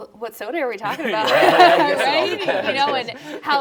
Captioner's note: all laughing